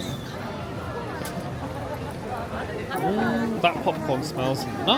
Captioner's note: crowd murmuring